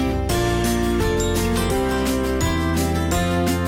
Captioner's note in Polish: dzwonek